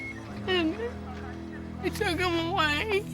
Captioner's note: voice breaking